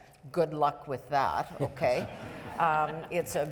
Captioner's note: audience members laughing